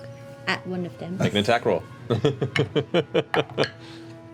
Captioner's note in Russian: смеётся